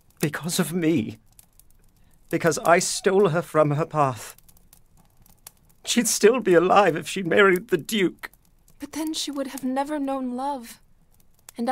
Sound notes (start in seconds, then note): 5.8 weeping